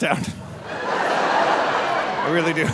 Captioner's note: audience laughing